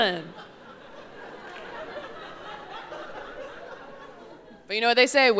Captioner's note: audience laughing